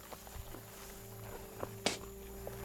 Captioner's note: spits